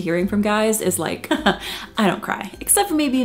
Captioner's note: chuckles